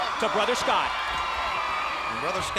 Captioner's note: crowd cheering